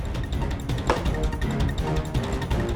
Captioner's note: thudding sound